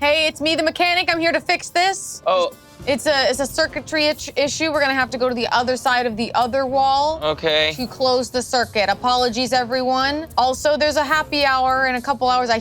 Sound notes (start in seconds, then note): none